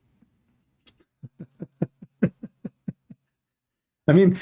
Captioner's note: Ketawa